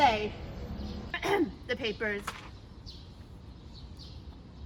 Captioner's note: annoyed royal coughs